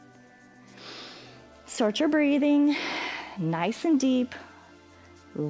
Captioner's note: exhales; inhales